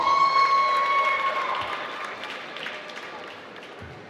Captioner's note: applause